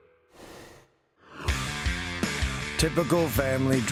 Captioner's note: rushing sound plays